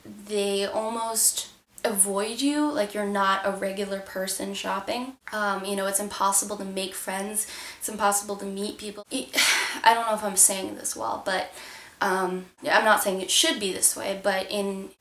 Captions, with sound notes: They almost don't avoid you like you're not a regular person shopping. It's impossible to make friends, impossible to meet people... *SIGH* I don;t know if I'm saying this well... But, I'm not saying it should be this way but in